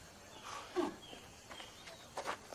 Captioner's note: sighs